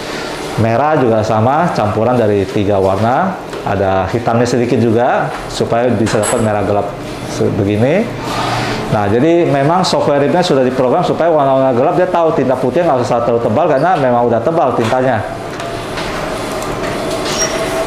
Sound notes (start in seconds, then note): 1.6 printer machine sound; 13.8 printer machine sound